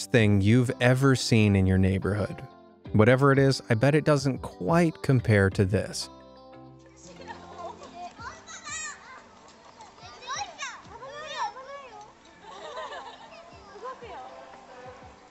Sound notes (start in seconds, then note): 7.8 children speaking in foreign language